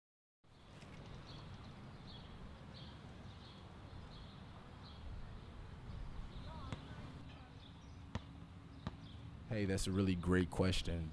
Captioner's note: birds chirping